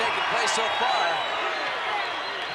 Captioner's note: applause